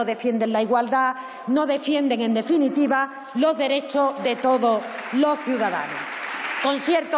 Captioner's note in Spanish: Protestas.-Aplausos